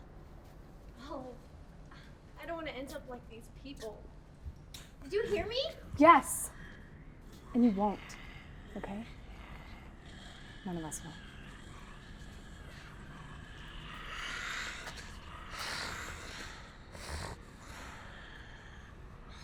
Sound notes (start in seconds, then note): 12.8 growling